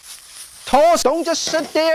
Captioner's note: stir-frying noises